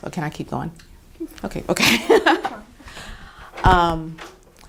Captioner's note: chuckles